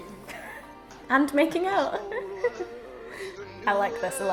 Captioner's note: laughs